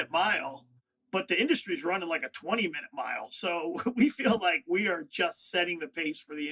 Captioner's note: laughs